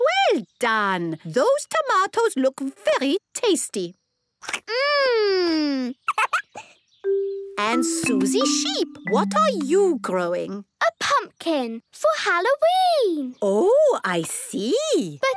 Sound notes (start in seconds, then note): 6.0 giggles